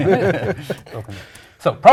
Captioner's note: laugh